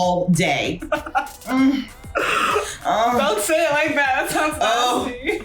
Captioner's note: laughs; groans and moans; laughs